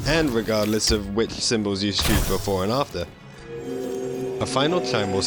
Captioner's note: chime